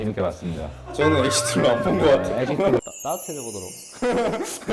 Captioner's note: laughs